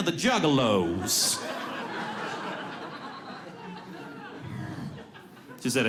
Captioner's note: audience laughs